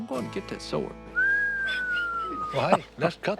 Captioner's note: Jase whistling